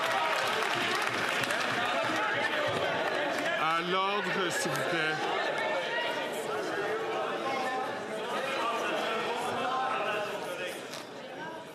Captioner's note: some Applause